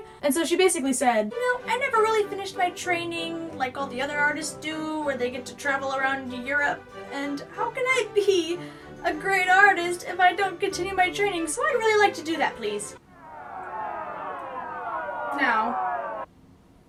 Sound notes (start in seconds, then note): 13.1 angry mob noises